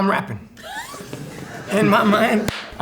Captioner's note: laughter